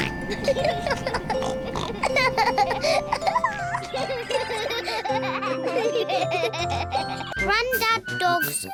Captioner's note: both giggle; oinks